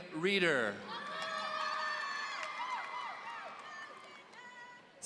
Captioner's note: audience cheering